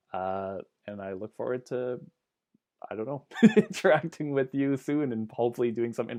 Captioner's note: laughs